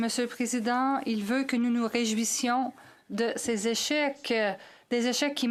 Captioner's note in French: voix de l'interprète